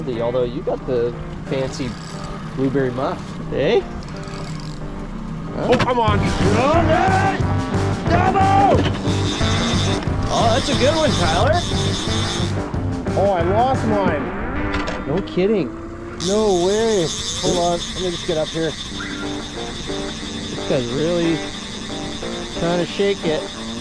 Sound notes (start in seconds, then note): 8.8 reel whirring; 18.9 upbeat music